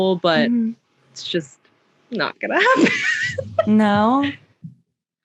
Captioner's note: laughs